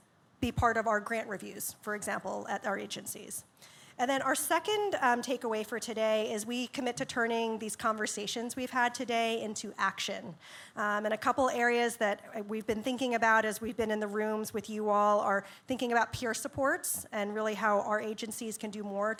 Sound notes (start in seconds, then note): none